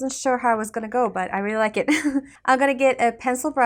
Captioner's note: chuckles